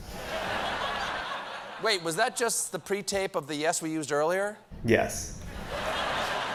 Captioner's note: laughter